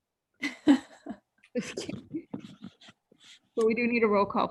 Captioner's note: women laughing